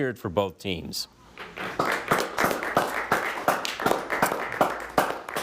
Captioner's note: crowd applauding